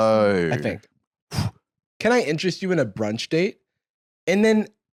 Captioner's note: huffs